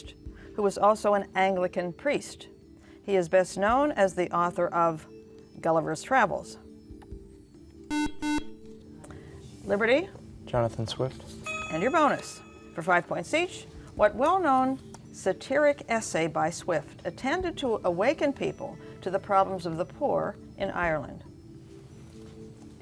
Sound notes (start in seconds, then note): 7.9 beeping